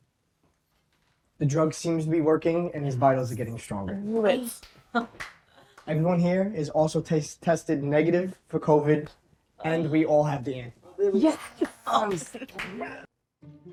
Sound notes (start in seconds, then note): 5.0 friends exclaiming